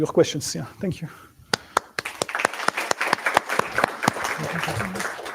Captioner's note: applause